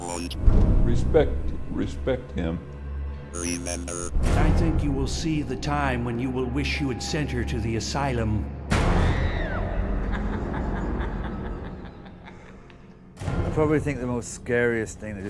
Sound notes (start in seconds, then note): 9.0 girl screaming; 10.0 man laughing